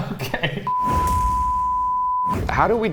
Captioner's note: production beep